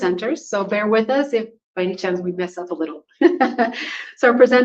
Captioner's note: laughs